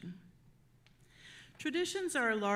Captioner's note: none